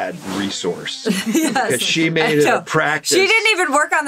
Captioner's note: laughing